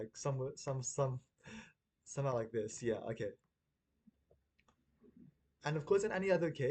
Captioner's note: audible gasp